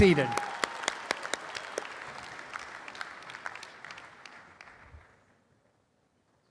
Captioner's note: applause